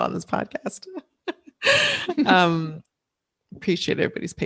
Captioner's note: laughing